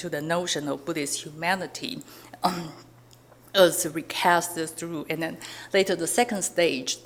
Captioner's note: clears throat